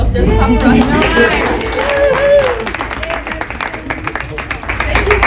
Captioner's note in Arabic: الجمهور يصفق ويهتف